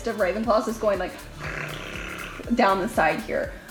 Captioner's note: blows raspberry